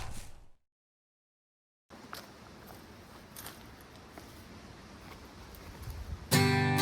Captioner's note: wind Blowing